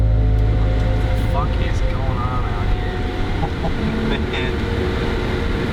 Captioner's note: laughing